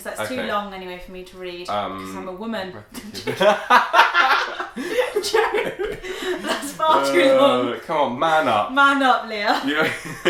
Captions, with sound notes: 'Cause it's too long anyway for me to read. 'Cause I'm a woman. (laughter) Joke, that's far to long. - Man up. - Man up Lia.